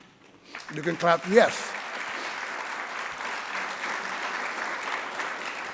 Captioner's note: audience clapping